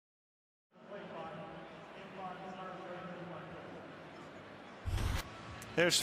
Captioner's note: pa announcement